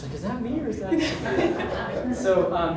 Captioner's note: audience laughs